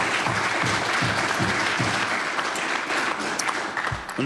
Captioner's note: applause